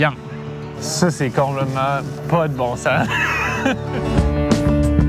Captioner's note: laughter